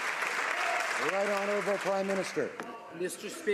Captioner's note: some applause